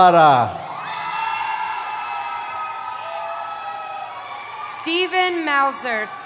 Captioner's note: cheering